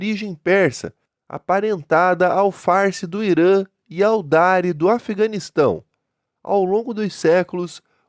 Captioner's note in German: Farsi